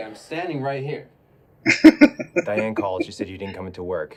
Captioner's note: laughing